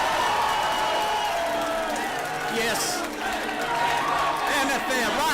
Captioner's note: applause